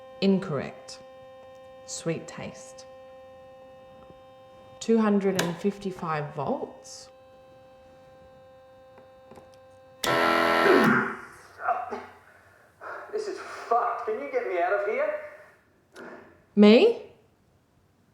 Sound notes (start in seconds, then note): 10.9 machine blaring; 10.9 grunting